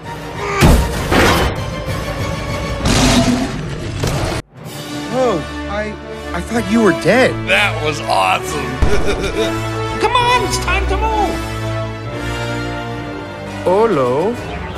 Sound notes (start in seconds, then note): 8.9 giggles